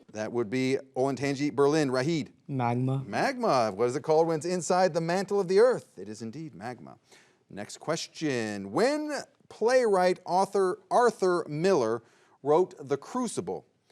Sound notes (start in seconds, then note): none